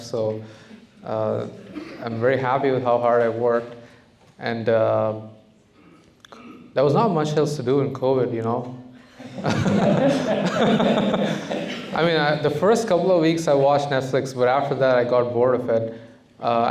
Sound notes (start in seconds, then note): 9.1 laughter